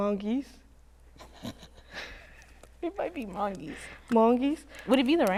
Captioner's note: laughs